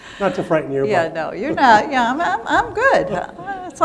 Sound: laughter

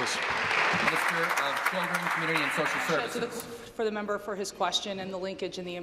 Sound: applause

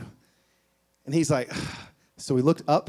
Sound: sighs

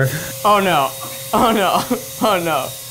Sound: laughing

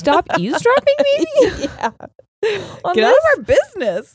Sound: laughs

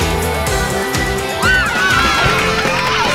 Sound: cheering

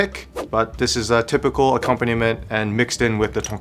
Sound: air whooshing

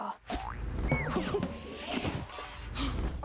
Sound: chuckling

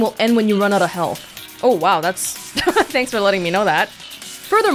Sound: laughs

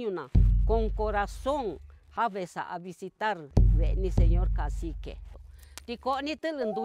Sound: Speaking Mixtec

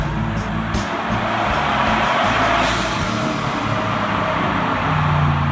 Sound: soulful music; engine revving

